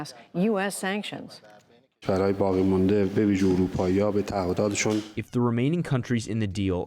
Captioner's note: through translator